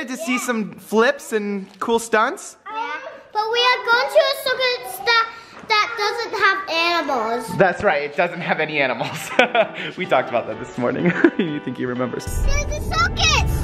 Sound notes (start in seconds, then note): 9.0 laughs